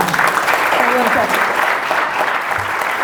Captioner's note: audience applause